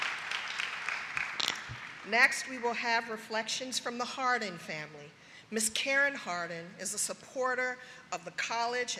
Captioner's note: applause